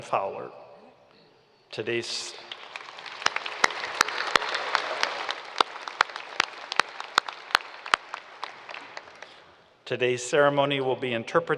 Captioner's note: applause